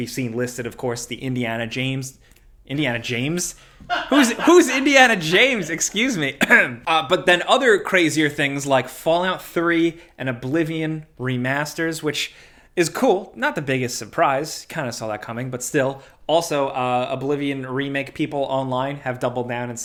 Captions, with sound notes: We've seen listed of course the Indiana James... Indiana James? Who's Indiana James? Excuse me. (clears throat) But then other crazier things like Fallout 3 and Oblivion remasters, which is cool. Not the biggest surprise. Kind of saw that coming, but still. Also Oblivion Remake people online have doubled down